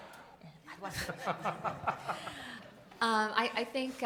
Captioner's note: audience and panelists laughing